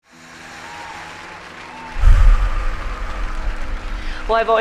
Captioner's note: applause and deep breath